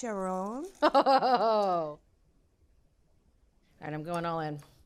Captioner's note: chuckles